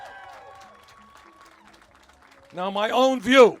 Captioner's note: cheers